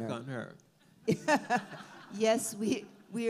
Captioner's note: all laugh